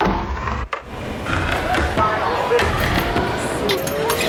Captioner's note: machinery noise